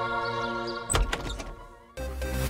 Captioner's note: door opening; peppy music